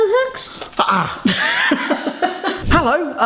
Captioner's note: laughing